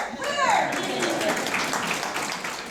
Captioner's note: applause